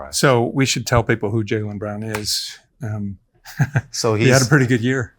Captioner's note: chuckles